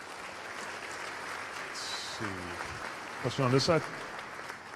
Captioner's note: applause